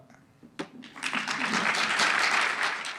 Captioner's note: audience clap